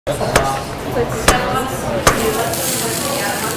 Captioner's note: cutting sounds...sizzling